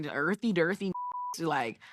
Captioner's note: beep